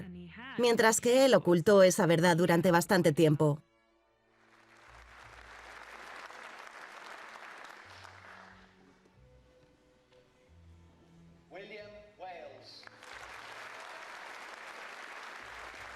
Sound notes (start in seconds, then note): 4.4 applause; 11.6 voiceover; 12.7 applause